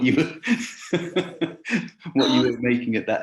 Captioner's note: laughing